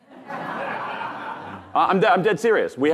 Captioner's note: audience laughing